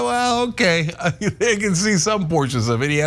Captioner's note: laugh